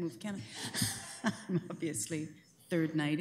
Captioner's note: laughter